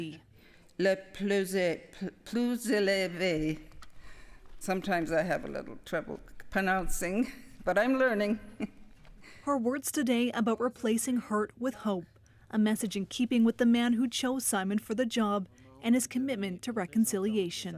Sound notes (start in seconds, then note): 8.2 speaking inuktitut